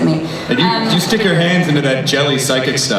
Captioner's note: voiceover